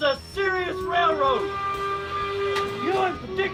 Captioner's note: train whistles